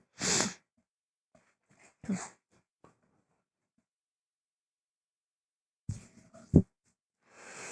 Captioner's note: allergy sniffles